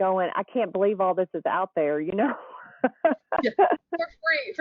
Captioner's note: laughs